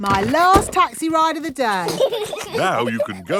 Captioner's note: brakes squeal; peppa and george giggling